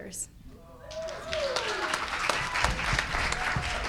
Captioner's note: cheers and applause